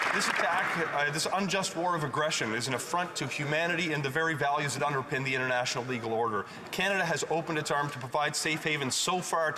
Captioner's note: applause